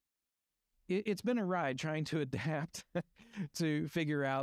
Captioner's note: chuckles